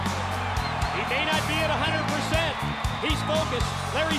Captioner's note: crowd cheering